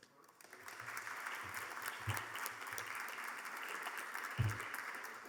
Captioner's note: audience members clapping